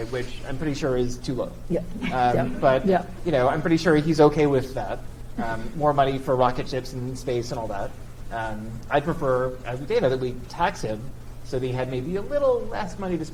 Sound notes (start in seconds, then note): 2.0 audience chuckles